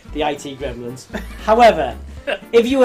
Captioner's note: laughing